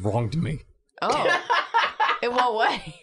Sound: chuckles; cackles

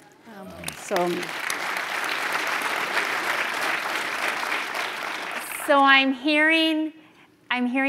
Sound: applause

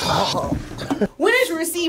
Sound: both gagging

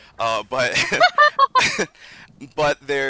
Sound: hearty laughter

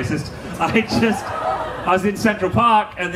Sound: audience laughing

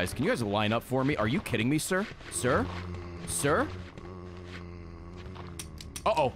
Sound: empty gun reload click

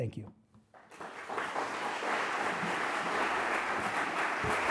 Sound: audience clapping

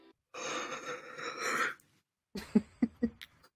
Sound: yawn

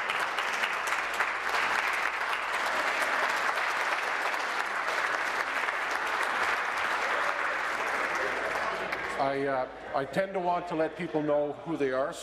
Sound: applause

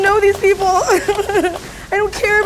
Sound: whimpering

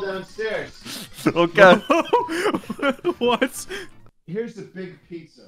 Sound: laughter

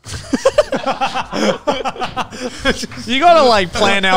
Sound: all laughing

